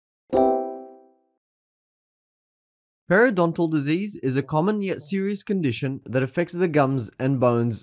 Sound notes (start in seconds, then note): 0.3 chime